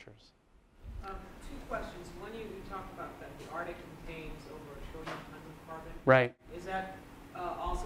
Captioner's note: voiceover